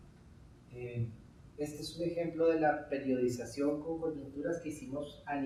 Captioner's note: speaking in Spanish